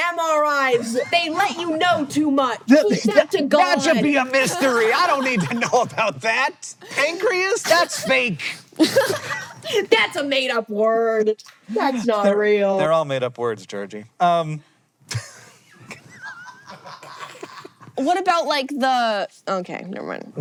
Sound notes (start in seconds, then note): 8.8 laughs; 15.7 CREW laughing